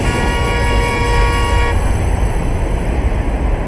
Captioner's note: horns honking